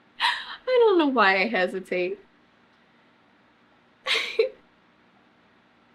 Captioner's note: laughs; laughs